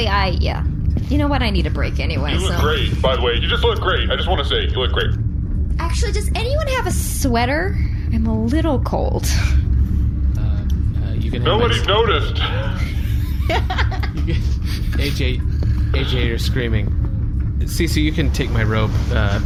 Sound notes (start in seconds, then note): 2.1 nervous; 9.7 extremely nervous shouting